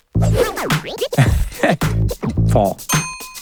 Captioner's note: laughing